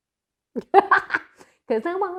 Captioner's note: laughs